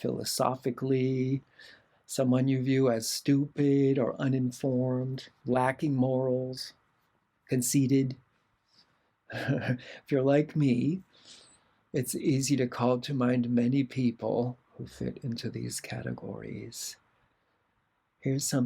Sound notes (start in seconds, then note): 9.3 laughter